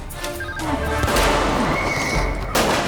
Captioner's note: phone rings; guns firing